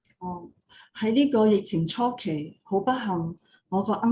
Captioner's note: non-english speech